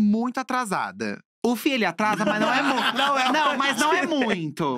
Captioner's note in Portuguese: risos